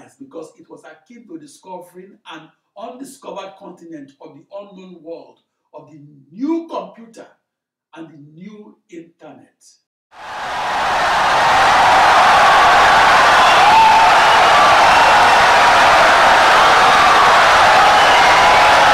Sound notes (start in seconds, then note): 6.9 wild applause and cheering for 17 seconds